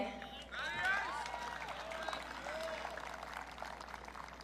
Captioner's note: audience cheering